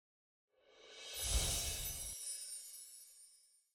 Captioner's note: chimes tinkling